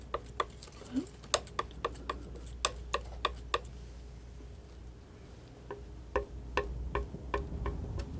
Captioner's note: tapping